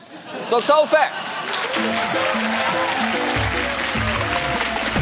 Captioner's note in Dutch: gelach